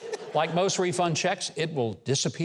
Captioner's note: laughing